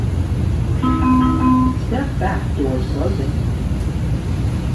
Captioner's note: chime